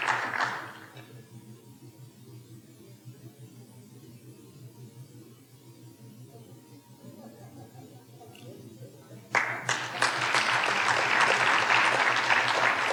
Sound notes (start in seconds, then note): 8.1 audience members talking and laughing off microphone; 9.3 audience applauding